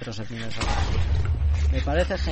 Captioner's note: chicken dies